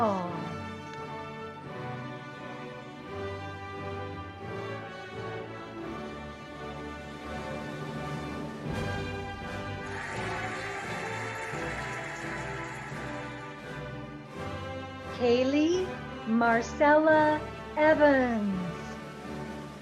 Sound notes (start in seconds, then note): 1.3 cheerful music; 9.2 cheering and applauding